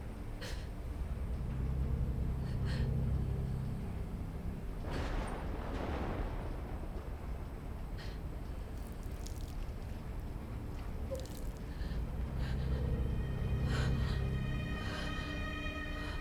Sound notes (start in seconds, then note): 0.3 Belle crying; 4.7 thunder cracking; 8.7 water trickling; 11.7 tense music